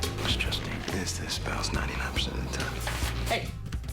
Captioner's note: whispering